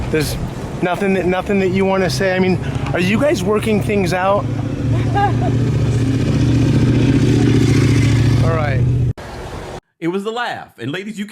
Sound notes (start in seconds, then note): 4.9 Nia laughs; 6.6 motorcycle revs